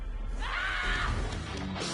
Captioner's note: girls roaring; rock music continues